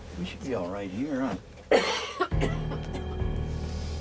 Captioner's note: coughing